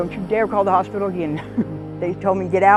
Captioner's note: chuckles